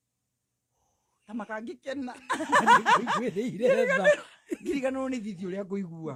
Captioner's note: laughter